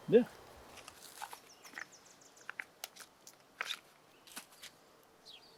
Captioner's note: forest din